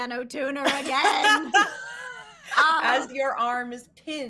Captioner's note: laughing